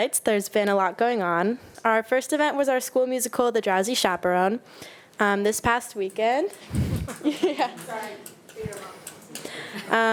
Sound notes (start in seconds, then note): 6.8 attendee applauding